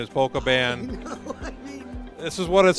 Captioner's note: laughing